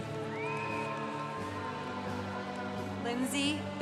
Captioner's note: congregation cheering